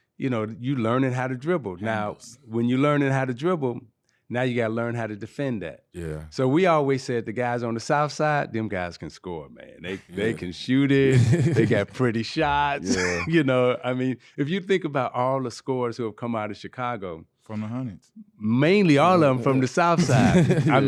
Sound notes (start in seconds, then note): 12.4 laughing